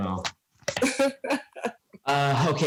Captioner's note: laughs